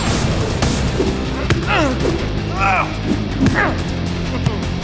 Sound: Shakes grunting

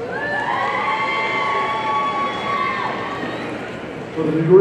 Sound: audience cheering

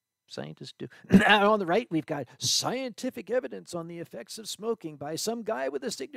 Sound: ahem

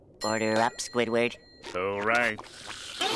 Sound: sarcastically; sniffs

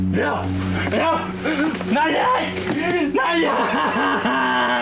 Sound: anguished cries

